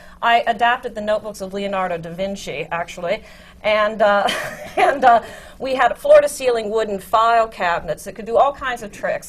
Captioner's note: laughs